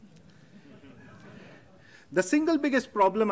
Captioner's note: laughter